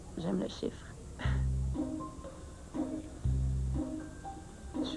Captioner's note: Rire